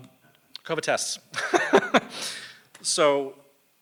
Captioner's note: laughs